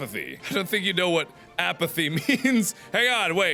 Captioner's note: laughing